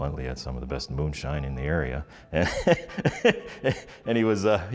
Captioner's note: laughs